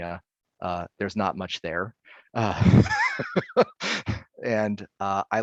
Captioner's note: laughing